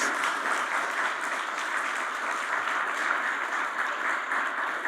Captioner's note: audience applauds